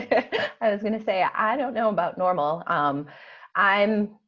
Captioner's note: laughs